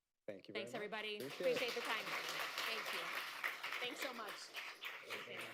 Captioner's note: applause